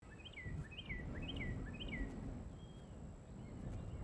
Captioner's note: bird chirping